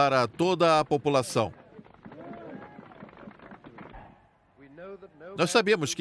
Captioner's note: people clapping